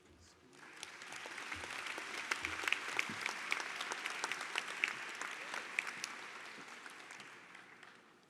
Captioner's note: applause